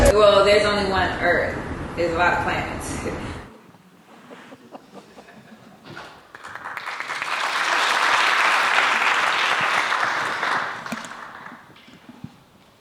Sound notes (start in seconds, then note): 3.5 laughing; 6.0 applause